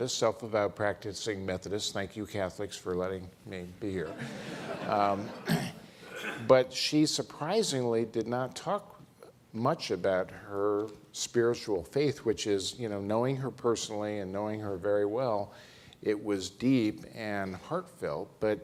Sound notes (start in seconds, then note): 4.0 all laughing